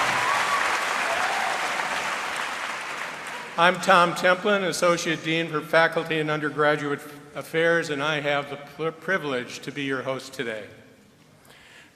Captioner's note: applause and cheering